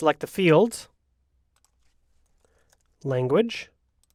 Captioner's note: mouse clicks